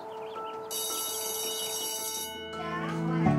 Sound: school bell rings

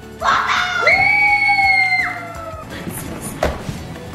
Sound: happy yelling

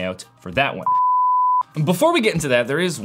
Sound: beeping

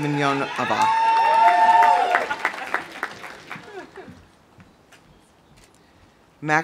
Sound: audience cheering; audience applauding

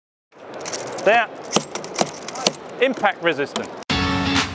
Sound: hammering

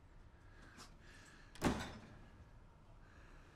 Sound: door closes

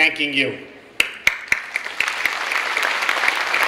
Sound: clapping

